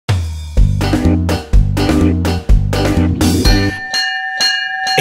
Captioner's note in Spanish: Sonido de campana; Música Alegre